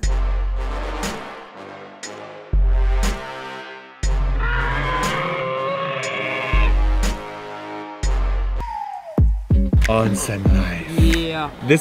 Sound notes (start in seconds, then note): 0.0 intense bass music; 4.4 Godzilla roars; 6.5 intense bass music; 7.9 hip hop beat